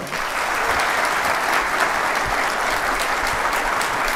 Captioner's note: applause